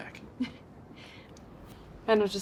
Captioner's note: Fern laughs